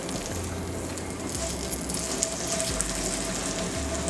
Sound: sizzling

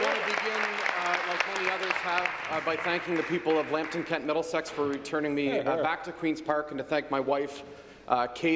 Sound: applause

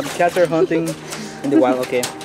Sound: laugh

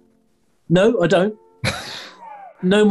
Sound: sniggering

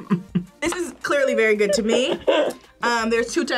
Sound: laughs

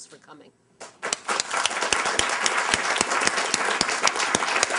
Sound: applause

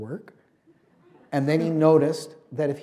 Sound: laughter

